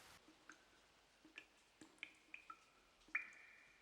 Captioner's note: water dripping